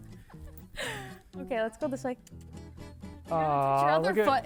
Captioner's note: instructor laughs; clicks tongue